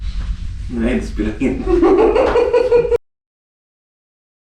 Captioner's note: evil laugh